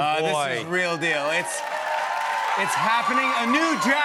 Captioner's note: cheers and applause